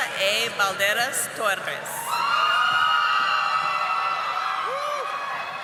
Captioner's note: audience applauding